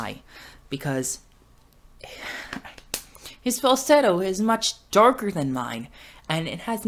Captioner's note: laughs